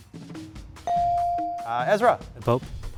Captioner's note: buzzer dings